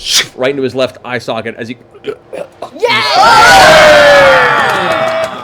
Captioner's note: cheering